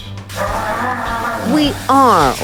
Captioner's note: Manny growls